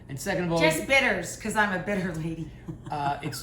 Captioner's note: laughs